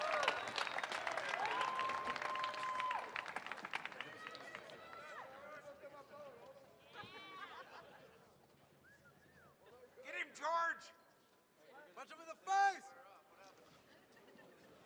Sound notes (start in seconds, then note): 2.2 applause